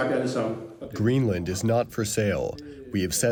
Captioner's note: through translator